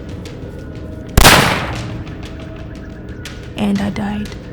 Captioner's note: gun firing